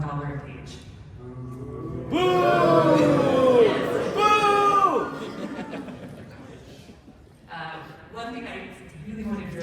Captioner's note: loud booing from the audience, then laughter